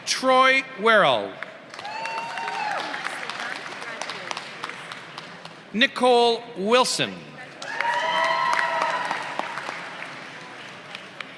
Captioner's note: applause; applause